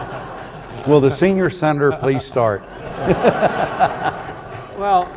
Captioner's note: laughs